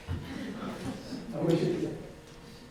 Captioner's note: audience laughs